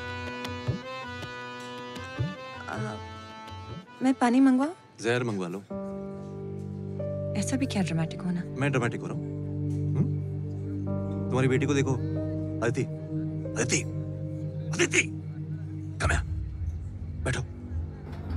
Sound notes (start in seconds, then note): 12.9 Whispering